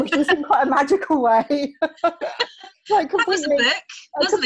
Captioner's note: both laughing